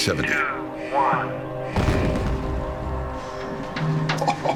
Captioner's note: bomb explodes